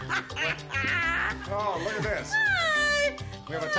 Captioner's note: laughter